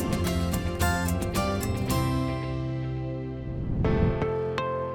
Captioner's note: whoosh